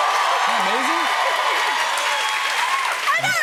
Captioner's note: cheers and applause